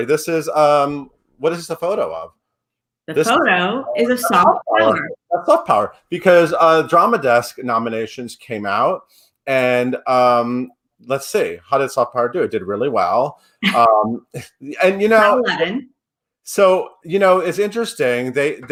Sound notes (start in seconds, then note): 13.6 laughs